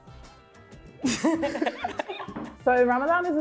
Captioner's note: laughs